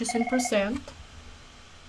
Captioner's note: phone ringing